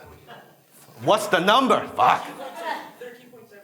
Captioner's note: audience members laugh